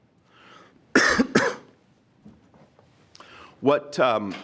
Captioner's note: coughs